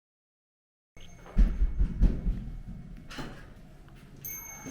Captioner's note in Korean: 노크소리